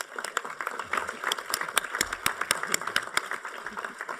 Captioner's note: applause